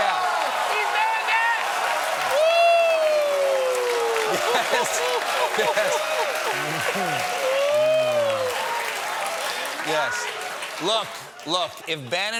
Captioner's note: audience screams; applause